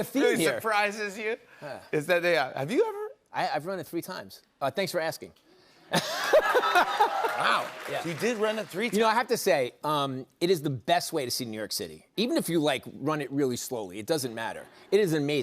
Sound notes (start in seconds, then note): 5.3 laughing; 6.2 cheers and applause